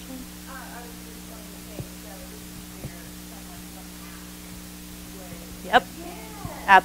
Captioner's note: microphone feedback drowning out audience member